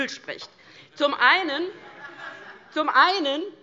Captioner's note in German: Heiterkeit DIE LINKE